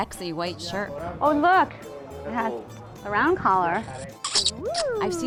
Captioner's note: sound: kissing